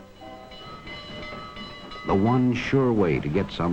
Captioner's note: bell ringing